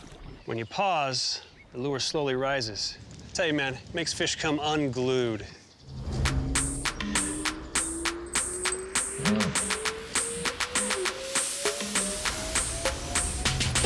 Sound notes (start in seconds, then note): 7.6 slowly rising whistle; 8.9 hip hop music